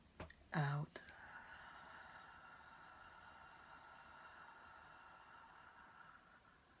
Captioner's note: exhaling